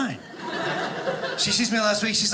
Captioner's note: audience laughing